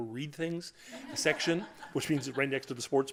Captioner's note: laughter